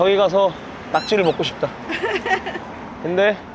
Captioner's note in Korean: 웃음